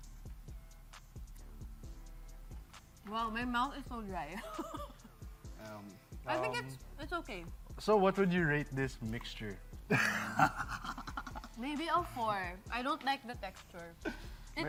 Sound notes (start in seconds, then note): 0.2 upbeat music continues; 4.3 laughs; 9.9 cackles